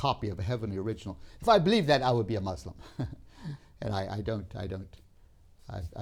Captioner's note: laughs